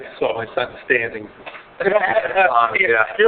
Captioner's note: laughing